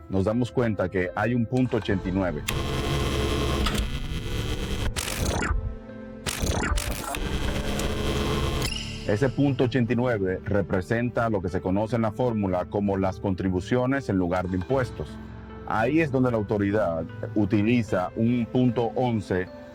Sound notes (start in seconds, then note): 4.2 beeping; 4.2 static